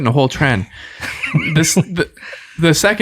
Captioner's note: innocent laughing